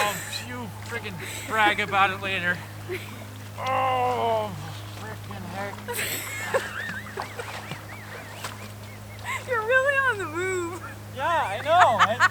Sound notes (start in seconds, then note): 5.8 is killing herself laughing!